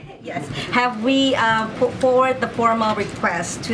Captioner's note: laughs